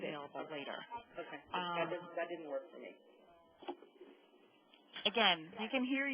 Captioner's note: audio feedback